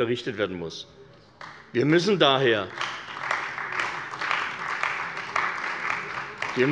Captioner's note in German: Beifall bei der CDU und dem BÜNDNIS 90/DIE GRÜNEN